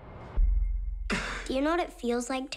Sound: sigh

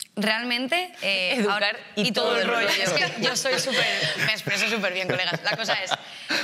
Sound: laughs

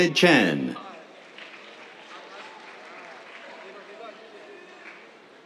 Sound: applause

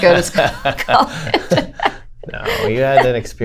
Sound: laughter

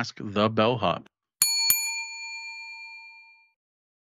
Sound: bell chimes

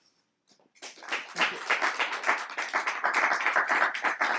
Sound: applause

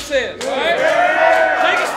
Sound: cheering

